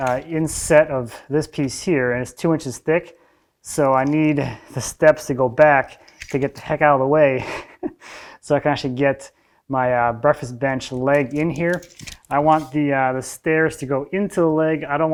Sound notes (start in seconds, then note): 8.0 laughs